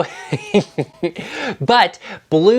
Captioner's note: laughs